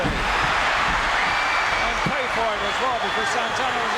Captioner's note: audience cheering